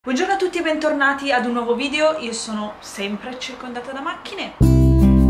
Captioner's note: car noises in the background